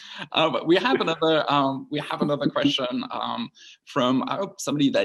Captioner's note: laughs